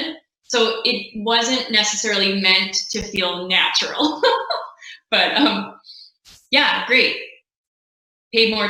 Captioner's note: laughing